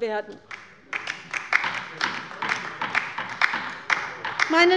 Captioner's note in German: Beifall bei der LINKEN